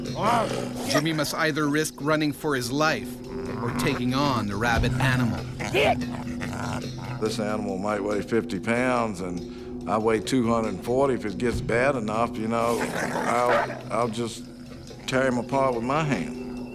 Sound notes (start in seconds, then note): 1.2 voiceover